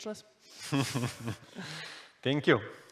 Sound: both chuckle

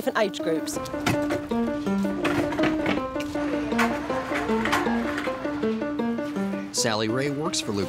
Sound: piano being moved

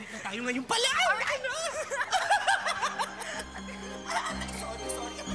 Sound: both laughing

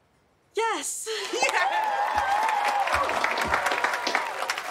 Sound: audience cheering

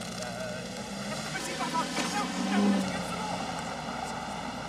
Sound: car engine revs away

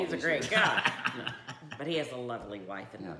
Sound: laughing

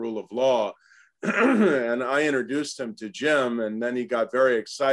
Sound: cough

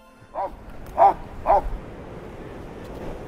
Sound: dog barking

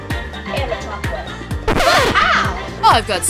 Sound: record scratching

